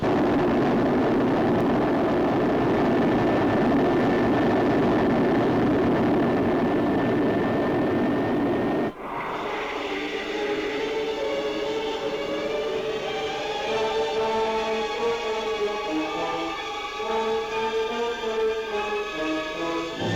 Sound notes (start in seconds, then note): 0.1 engines roar; 8.9 whooshing sound; 8.9 suspenseful music; 20.0 triumphant music